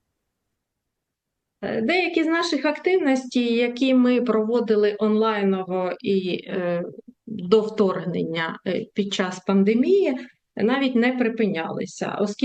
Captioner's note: foreign language